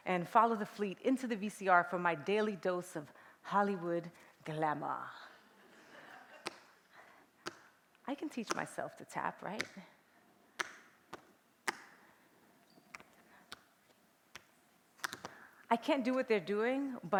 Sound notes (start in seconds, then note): 6.3 tapping; 10.7 tapping